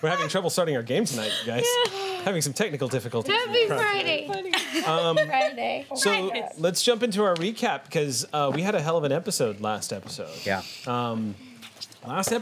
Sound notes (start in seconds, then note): 4.3 laughing